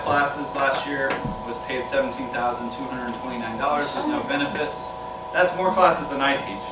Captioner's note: gasps